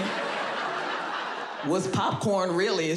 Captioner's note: audience laughs